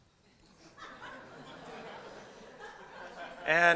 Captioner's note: laughter